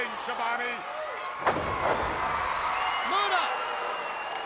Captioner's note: body thuds